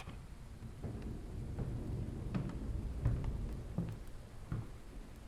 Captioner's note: thunder rolling